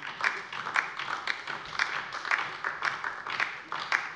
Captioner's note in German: Beifall LINKE